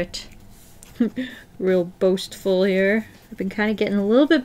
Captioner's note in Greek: χαχανητά